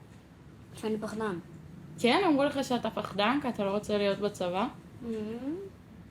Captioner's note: speaking foreign language